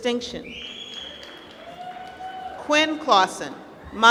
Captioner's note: applause